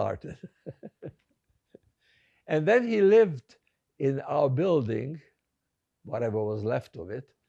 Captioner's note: laughing